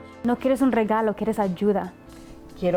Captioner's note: interpreter speaking in Spanish; speaking in Spanish